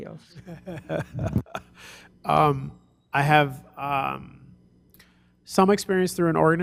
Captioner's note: chuckles